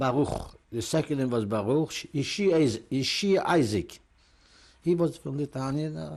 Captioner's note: non-english